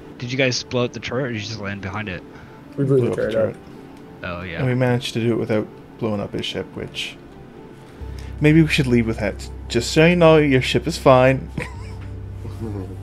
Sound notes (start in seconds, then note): 11.5 laugh